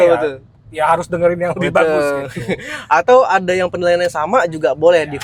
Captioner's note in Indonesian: tertawa